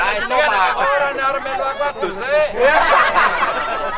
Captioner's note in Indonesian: tertawa